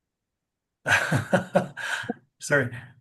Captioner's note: laughs